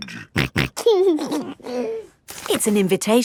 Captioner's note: snorting and giggling